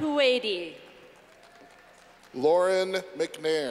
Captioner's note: clapping